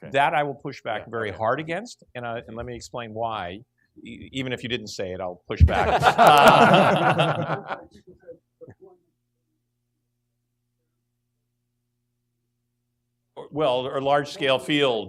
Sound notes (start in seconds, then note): 5.8 laughing